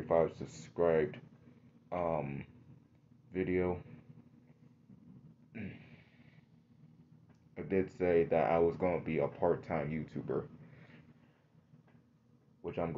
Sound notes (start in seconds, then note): 5.5 clears throat